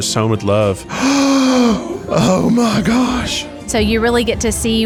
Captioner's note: gasps